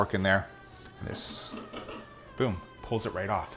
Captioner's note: scraping